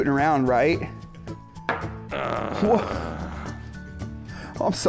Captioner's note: disgruntled puppet sounds